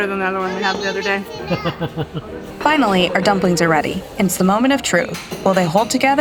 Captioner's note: laughs